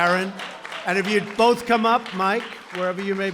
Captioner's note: applause